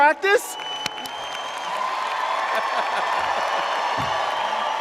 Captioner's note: audience cheering